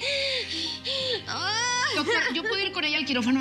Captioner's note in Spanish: Quejidos